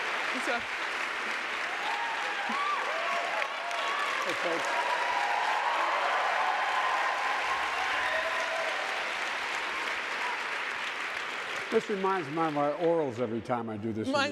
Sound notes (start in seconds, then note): 2.9 audience cheering and yelling